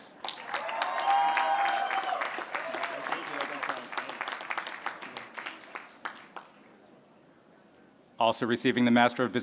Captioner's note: applause